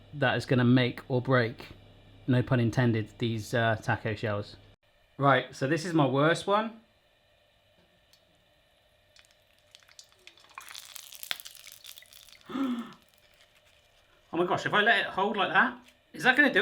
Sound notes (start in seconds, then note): 9.1 crackling; 10.2 gasps